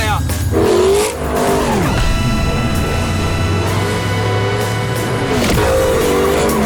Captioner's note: engine: bwwwwaaaaaaaaaaaahhhhhhhh; tyres: screeeeeeeeeeching